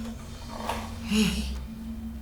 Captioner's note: sighs